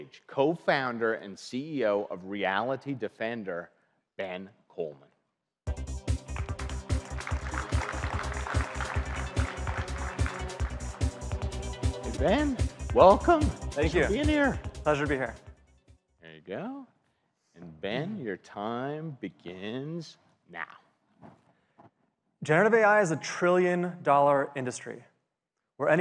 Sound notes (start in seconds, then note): 6.1 audience applauds